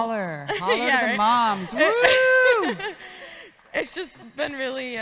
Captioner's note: audience woman laughs